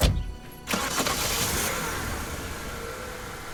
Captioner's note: engine rumbles